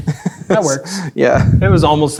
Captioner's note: chuckling